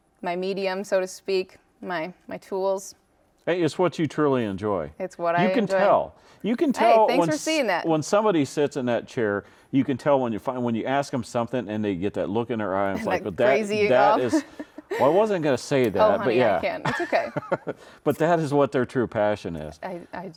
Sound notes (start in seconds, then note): 13.8 laughs; 16.6 laughs